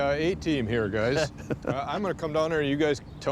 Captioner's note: soft laughter